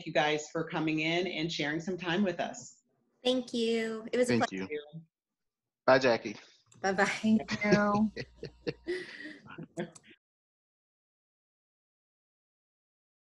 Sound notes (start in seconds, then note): 6.9 laughing